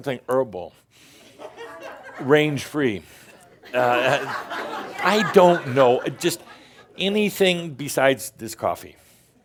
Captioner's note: laughter